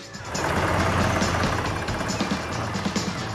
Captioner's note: machines Rumble